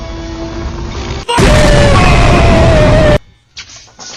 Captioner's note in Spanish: explota